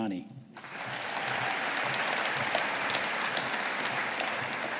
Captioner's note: audience applauding